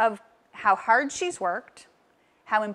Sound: none

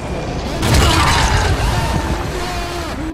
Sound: screams of horror

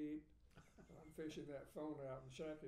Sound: laughing

